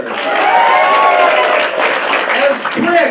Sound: applause

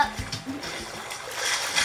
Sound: water splashing

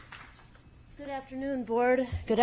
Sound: applause

